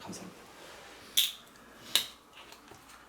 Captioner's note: the sound of opening the drink